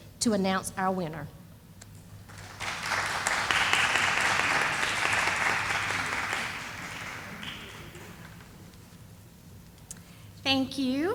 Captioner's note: sound of applause